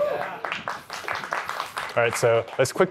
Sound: cheering

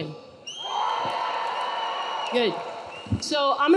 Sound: audience cheering

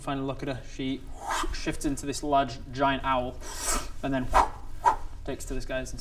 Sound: whoost; phfffft

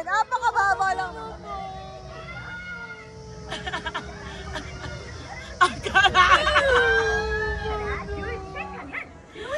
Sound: Jennica cries; Melai, nervous laughs

